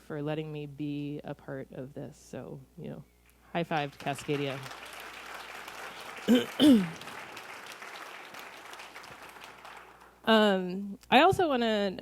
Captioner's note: clapping